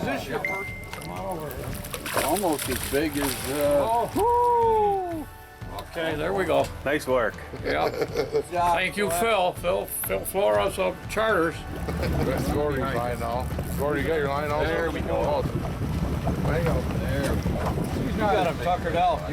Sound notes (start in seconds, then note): 7.4 chuckles; 11.7 men chuckling